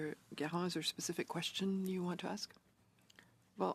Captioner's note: speaking French